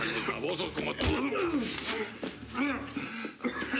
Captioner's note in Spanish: golpes; quejidos